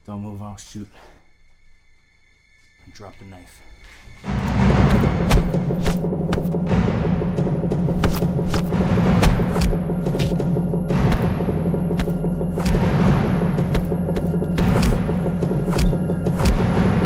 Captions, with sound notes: Don't move or I'll shoot. Drop the knife. (dramatic music) (fist striking) (fists striking) (fists striking) (dramatic music)